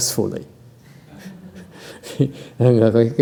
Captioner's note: laughter